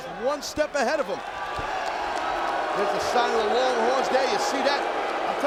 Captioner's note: applause